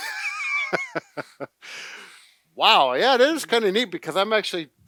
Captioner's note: laughs